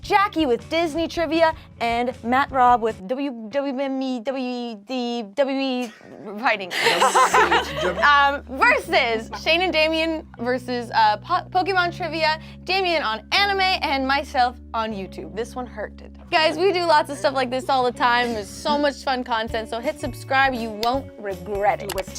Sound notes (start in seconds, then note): 4.2 stammers; 5.8 laughs